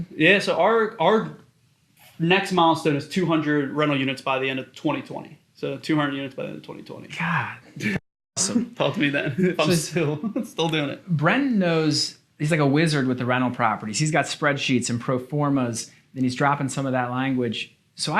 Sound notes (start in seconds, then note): 8.4 chuckles